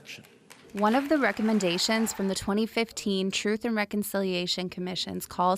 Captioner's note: applause